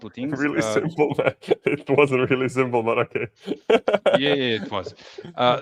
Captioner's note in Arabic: ضحك